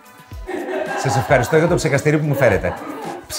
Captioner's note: group laughter